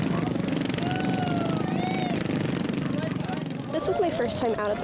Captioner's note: crowd members yelling